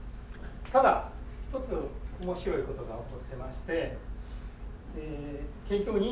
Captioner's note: speaking in foreign language